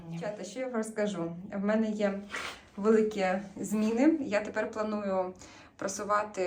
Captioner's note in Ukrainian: сопіння